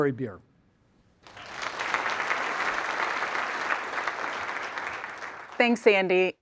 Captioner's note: applause